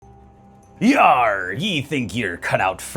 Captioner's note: really good pirate voice